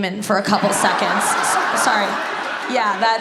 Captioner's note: audience laughs